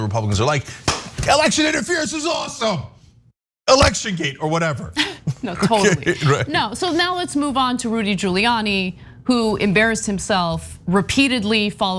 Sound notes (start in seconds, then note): 5.1 laugh